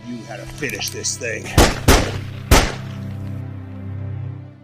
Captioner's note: gunshots